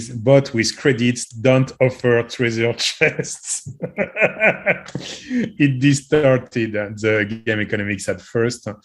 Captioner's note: laugh